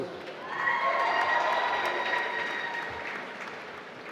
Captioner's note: applause